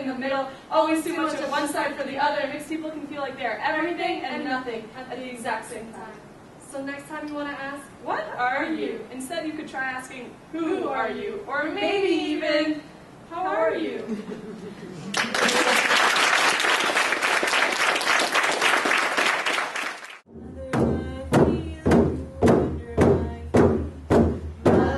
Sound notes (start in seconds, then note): 15.1 applause; 18.4 drumming